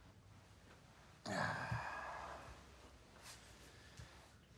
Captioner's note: Bjorn sighs